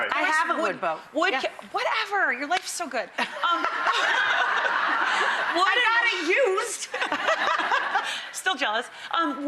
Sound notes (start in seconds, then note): 3.3 audience laughing; 6.9 laughs